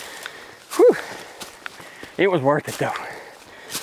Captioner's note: laughs; sighs